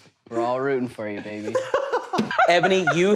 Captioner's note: rest of cast chuckle to themselves; laughs